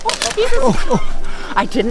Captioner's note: branches snapping